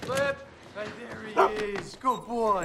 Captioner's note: barks